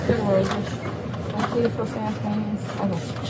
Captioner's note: speaking in foreign language